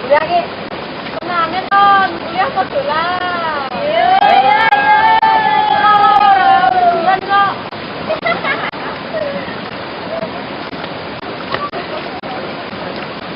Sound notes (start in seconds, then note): 5.4 laughing